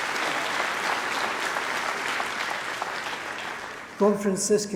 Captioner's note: applause